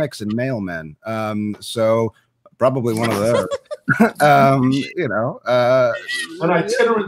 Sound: members laugh

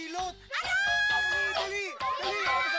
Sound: Bebang shouting

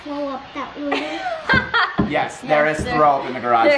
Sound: laughing

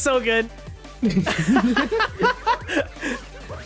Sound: laughs

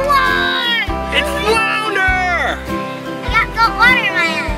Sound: voiceover

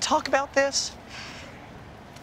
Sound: sighs

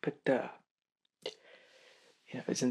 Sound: breath

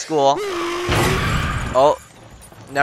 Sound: crash

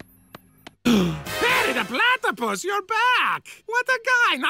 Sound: gasp

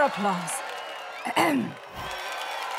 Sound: clearing throat; cheering

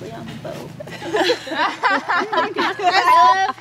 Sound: laughing

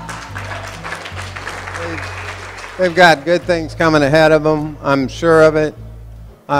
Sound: applause

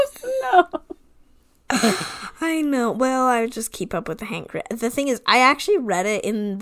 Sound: laughs

